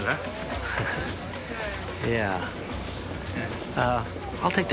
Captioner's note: laughs